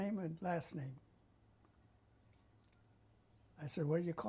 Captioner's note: pauses for 3 seconds